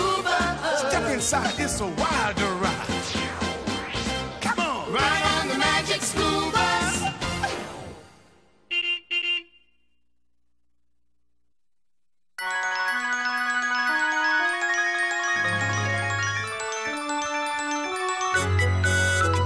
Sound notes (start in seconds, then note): 8.6 horn honks